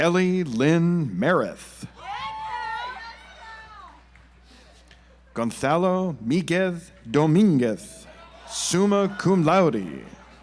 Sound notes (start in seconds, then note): 1.9 audience applauds